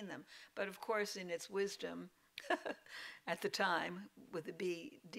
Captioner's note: laughs